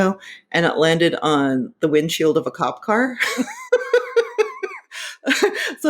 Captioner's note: laughing